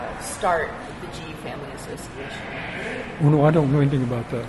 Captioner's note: laughs